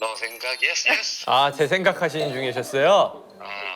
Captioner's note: tries not to laugh but fails